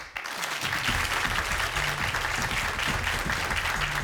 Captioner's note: audience applauds